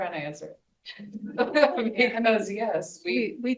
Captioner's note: group laughing